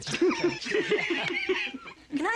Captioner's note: grandpa laughing